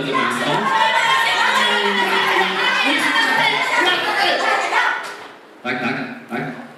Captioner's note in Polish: Aplauz